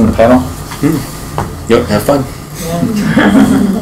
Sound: laughing

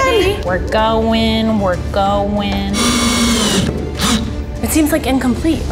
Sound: saw whirring

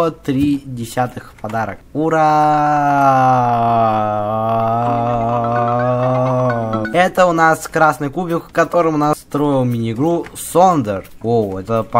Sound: laugh

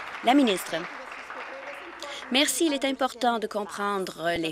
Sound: applause

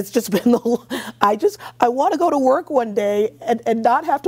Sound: laughs

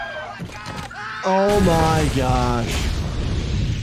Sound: driver and passenger shriek

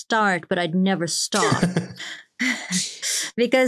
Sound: laughing

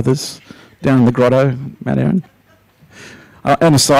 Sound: audience laughs

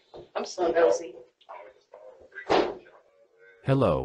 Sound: door closes from a distance; on phone

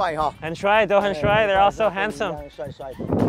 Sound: speaks in foreign language

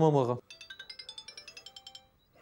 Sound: phone ringing

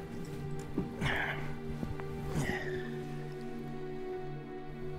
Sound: Randy grunting

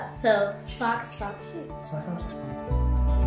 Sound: whispers

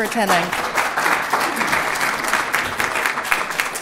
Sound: applause

